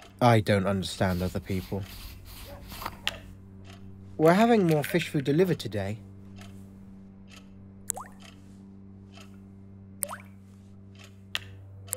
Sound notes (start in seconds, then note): 1.2 food lid unscrewing; 2.3 dog barking in distance; 3.7 food rattling; 7.2 clock ticking; 9.8 clock ticking